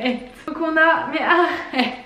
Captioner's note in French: rire